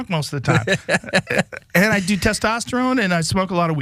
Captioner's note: laugh